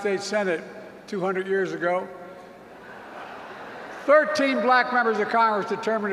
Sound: laughter

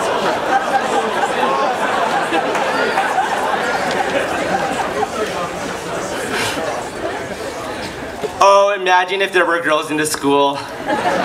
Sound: laughs

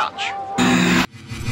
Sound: loud static

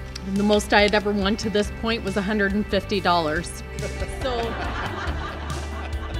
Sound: laughs

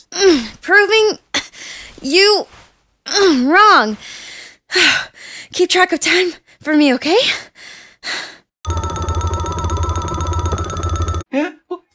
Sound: breath of air

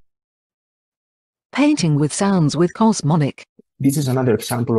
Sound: voice-over

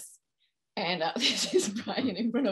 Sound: laughing

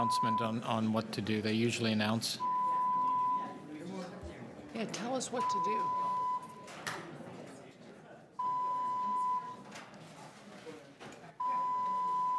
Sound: fire alarm buzzing

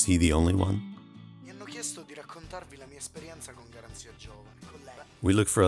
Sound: Italian speaking audio

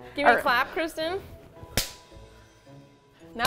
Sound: claps

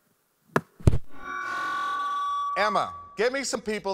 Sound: mic thuds and feeds back

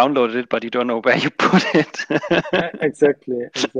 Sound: laughs

